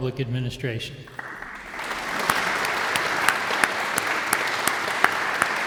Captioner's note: audience applauds